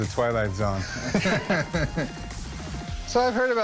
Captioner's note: laughter